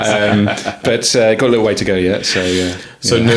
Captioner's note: laughing